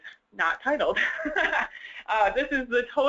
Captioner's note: laugh